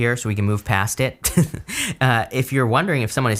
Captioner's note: chuckles